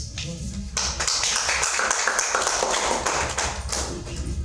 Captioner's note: audience clapping